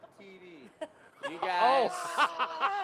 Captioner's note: laughter